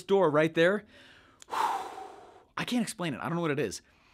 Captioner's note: exhales